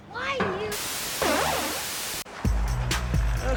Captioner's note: static